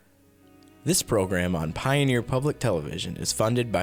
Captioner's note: voiceover